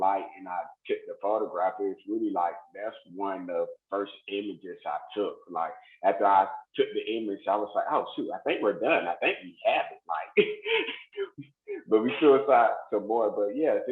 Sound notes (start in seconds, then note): 10.6 laughs